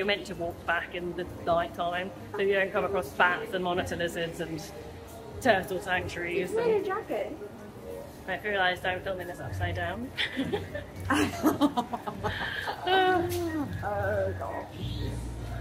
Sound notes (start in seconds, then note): 10.2 laughs